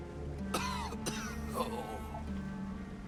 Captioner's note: coughs